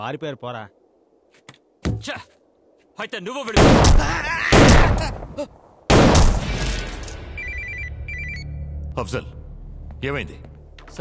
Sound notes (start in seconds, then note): 3.7 Gunshot; 7.3 Phone rings